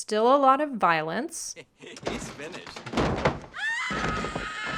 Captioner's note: bang; the censor yelps